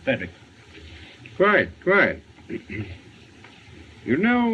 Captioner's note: clears Throat